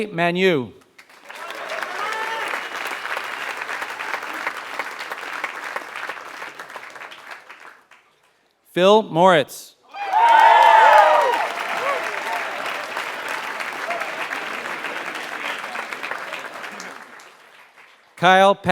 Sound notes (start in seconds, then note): 0.9 applause; 9.9 applause